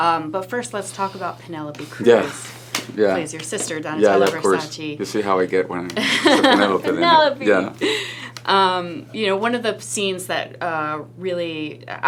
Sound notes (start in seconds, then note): 6.0 laughs